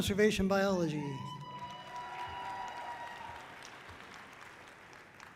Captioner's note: audience cheering loudly